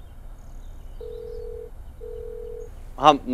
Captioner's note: Phone ringing